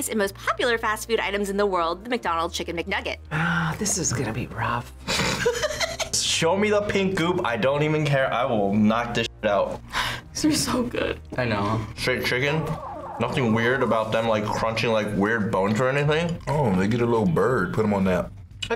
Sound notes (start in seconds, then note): 5.2 laughs